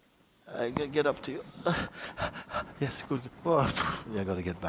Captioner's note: panting